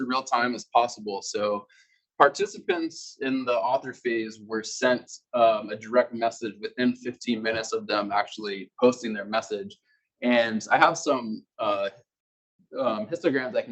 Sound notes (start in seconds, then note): 5.6 male Voice